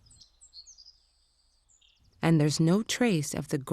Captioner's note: birds chirping